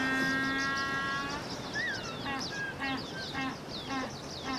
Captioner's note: penguin honking